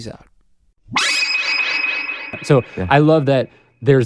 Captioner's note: chime